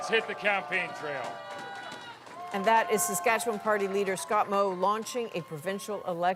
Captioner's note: applause